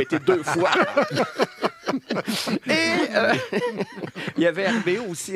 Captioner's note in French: rires